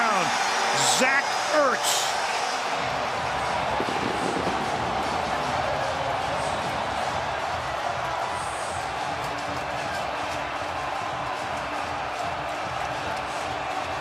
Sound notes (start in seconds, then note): 2.5 cheering